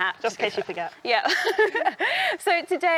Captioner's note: laughs